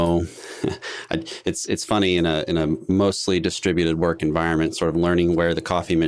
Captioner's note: chuckles